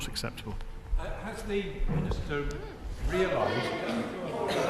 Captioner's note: members chatter